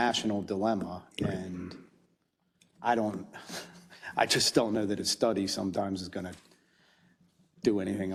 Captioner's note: laugh